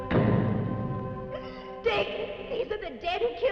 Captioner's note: door thudding